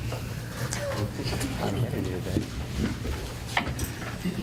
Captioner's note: chuckling